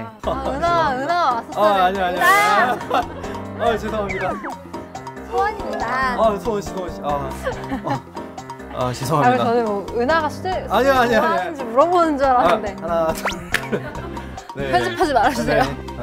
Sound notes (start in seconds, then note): 4.0 panicking